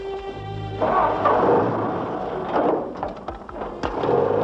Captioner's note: engines rumble